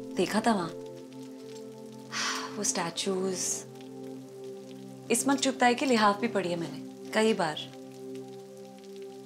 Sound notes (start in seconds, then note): 1.1 raining; 2.1 gasps